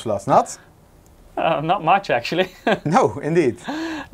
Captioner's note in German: lacht